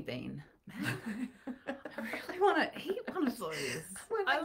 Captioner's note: laughing